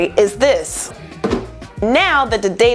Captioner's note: paper thud in trash can